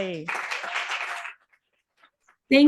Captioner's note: audience applauding